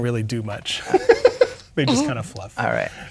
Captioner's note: laughing